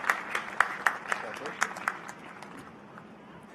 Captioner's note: applause